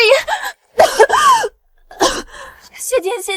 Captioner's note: cough, cough